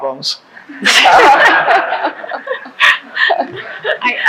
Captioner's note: laughing